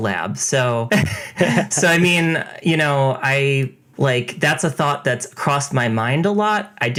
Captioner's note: laughs